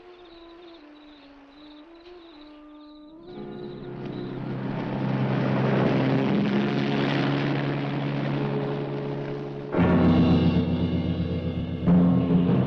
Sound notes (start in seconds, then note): 3.5 engine rumbling; 9.6 dramatic music